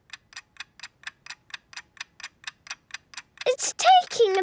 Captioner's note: ticking